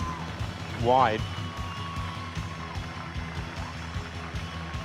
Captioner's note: crowd cheering